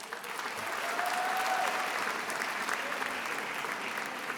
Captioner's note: attendees applauding